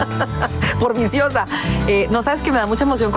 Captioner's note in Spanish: risas